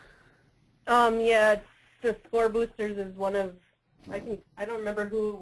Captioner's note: voiceover